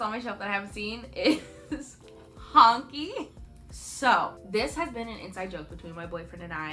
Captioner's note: chuckle